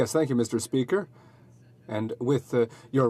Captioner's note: speaking French